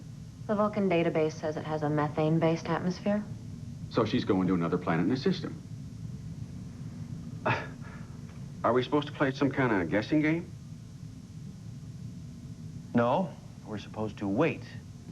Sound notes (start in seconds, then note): 7.5 laughs